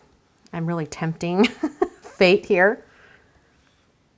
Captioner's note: laughs